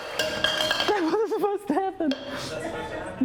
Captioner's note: banging